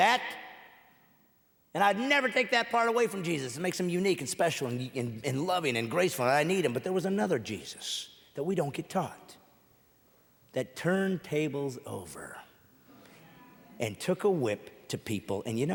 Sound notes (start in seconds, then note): none